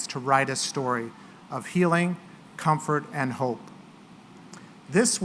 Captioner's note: none